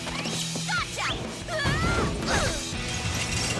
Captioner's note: hard thump